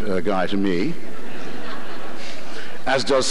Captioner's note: laughter